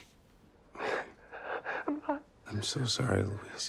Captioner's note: crying softly